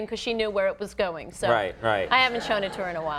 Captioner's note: audience laughing